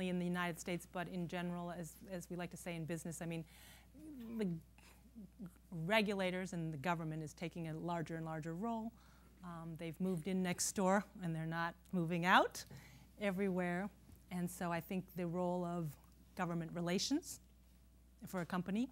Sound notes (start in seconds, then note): none